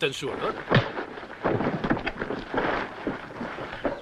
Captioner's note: thud